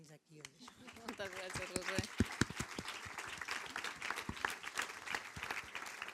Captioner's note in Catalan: Aplaudeixen